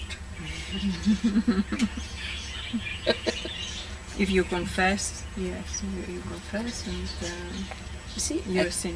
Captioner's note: laughter